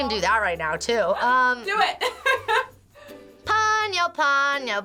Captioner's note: laughing